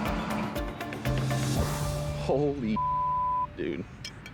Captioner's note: beep